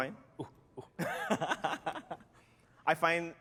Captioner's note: laughter